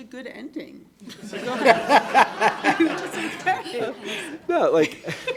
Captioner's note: all laughing